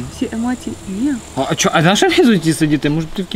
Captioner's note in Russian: Звуки возмущения